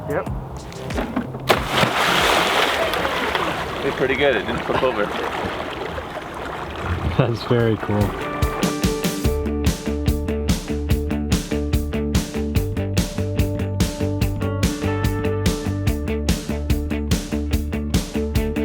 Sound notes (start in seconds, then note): 1.5 water splashing; 9.4 upbeat music